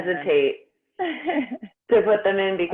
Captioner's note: laughs